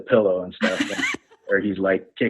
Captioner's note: laughs